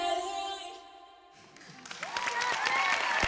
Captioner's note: applause